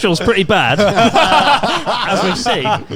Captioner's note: all laughing